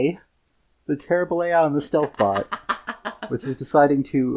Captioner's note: cackling